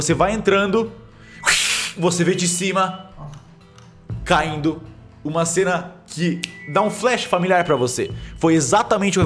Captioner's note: spider hiss